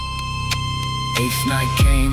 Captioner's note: heartbeat enters, slow